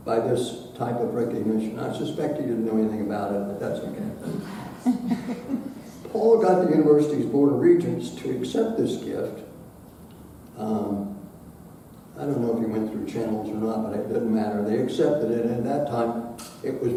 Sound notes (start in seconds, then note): 4.4 audience laughing